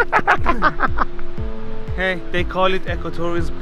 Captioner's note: laughing